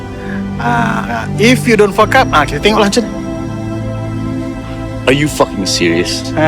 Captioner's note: speaking in foreign language